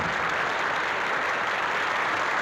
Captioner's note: applause